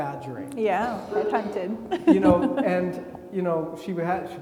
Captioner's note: laughs; attendee coughing